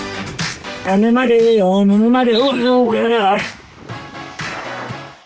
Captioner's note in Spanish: vomita